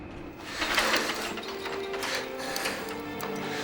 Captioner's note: gasping